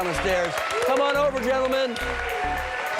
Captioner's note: cheers and applause